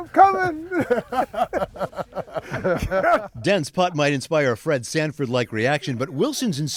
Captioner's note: laughs; laughter